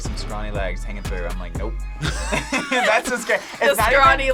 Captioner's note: both laugh